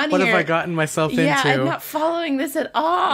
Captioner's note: laughs